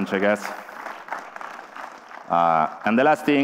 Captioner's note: applause